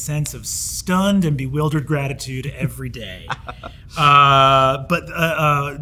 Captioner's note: Hank chuckles